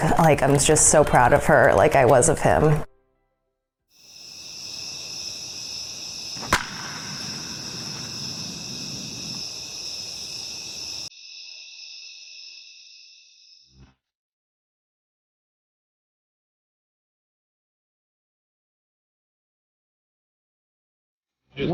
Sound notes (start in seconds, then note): 4.1 crickets; 6.4 baseball crack